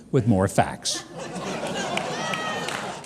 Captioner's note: audience laughs